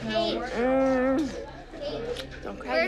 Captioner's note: groaning